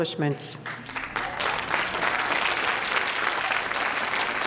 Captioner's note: audience applauding